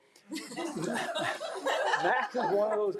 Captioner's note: board members laughing